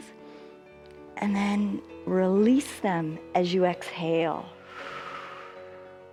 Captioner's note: exhales